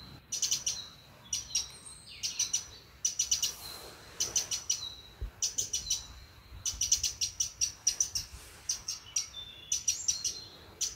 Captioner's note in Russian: пение птиц